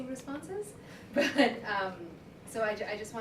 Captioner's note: laughs